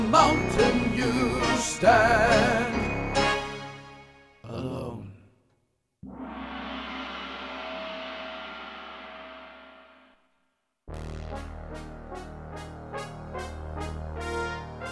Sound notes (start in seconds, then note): 6.0 sound of gong; 10.9 trumpet plays